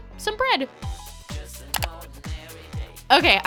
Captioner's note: clicking